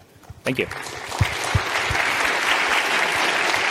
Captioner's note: clapping